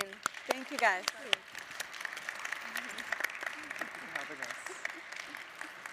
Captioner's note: audience applauds